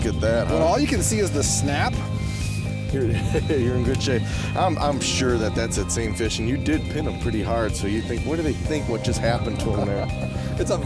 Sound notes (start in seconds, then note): 1.1 voiceover